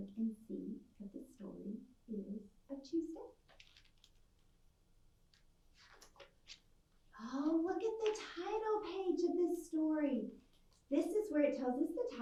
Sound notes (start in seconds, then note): 5.7 the page swishes